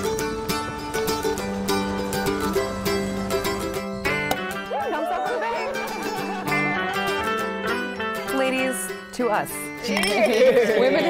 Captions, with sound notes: (cork pops) (cheering and laughing) Ladies, to us! - Cheers!